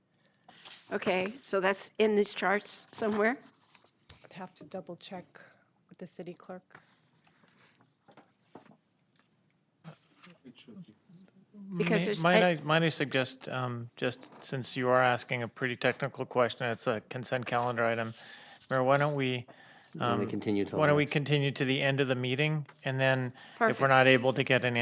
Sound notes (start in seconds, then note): 14.8 speaker off mic